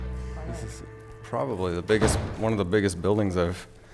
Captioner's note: SFX: Door slam